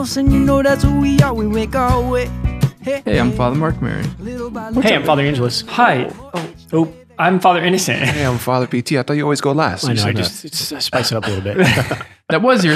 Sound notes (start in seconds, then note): 7.9 chuckles; 11.8 all laughing